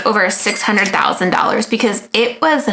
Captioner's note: cash register chimes